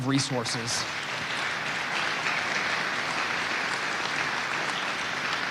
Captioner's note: audience applauding